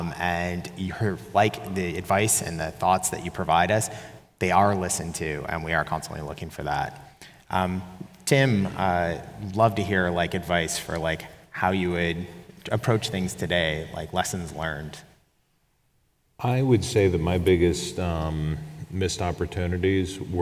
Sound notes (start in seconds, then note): none